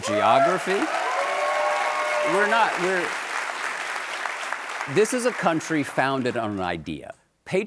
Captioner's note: applause